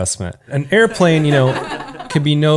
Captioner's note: canned laughter